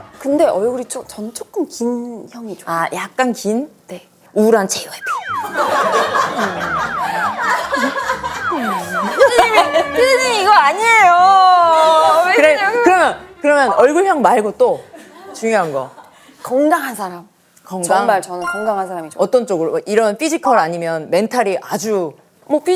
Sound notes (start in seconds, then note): 11.7 cry